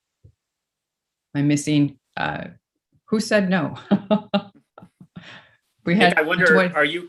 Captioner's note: chuckles